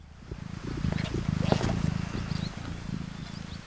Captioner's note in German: Schnurren